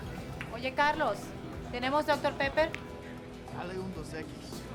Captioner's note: Angel yells in Spanish; Carlos speaks in Spanish in the distance